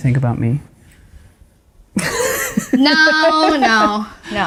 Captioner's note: laughing